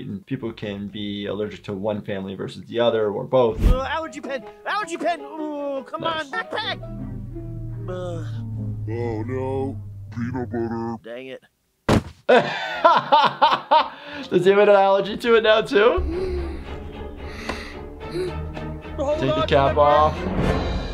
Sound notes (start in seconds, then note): 11.8 body thuds; 12.3 laughing; 16.0 breathing heavily